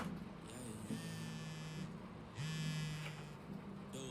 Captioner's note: cellphone vibrates